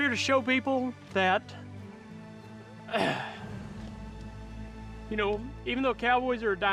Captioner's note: clears throat